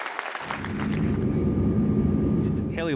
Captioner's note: audience applause